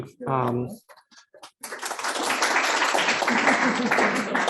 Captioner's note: applause